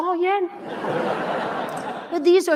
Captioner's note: audience laughing